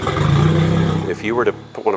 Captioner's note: engine Noise